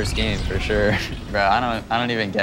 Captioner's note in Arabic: ضحك